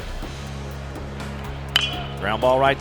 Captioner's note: bat hits ball